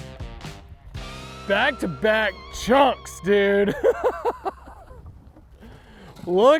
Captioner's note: chuckles